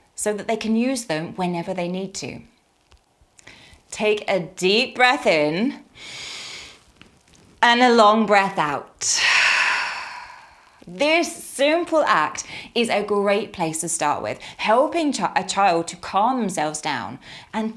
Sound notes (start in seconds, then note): 5.9 inhaling; 9.1 exhaling